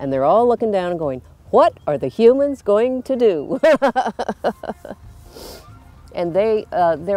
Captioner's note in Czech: směje se